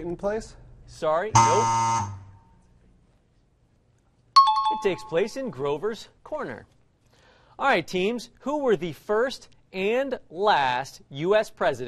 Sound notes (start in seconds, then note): 1.4 buzz; 4.4 bell rings